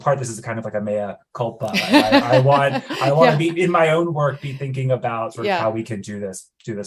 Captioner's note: laughs